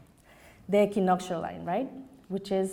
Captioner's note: foreign language